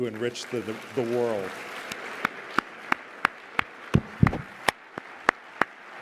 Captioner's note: applause